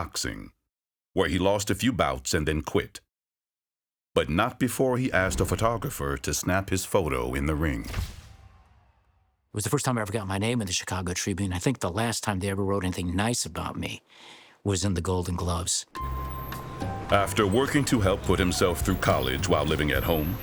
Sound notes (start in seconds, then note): 7.1 flash bulb popping; 15.9 light music